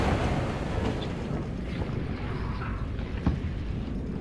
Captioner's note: muffled train rumbling